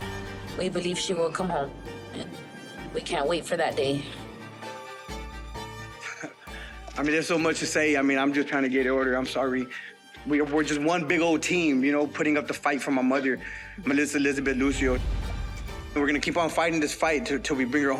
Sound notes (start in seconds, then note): 6.0 laughs softly